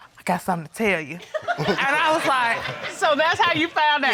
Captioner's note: audience laughing